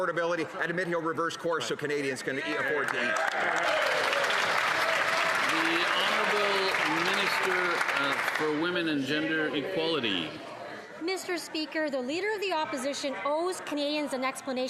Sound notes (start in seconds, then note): 10.0 some Applause